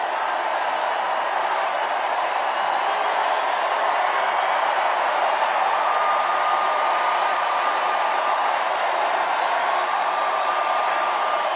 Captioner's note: cheers and applause